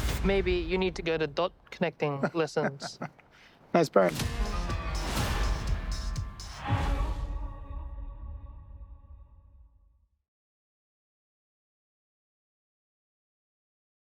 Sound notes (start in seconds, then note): 2.1 chuckling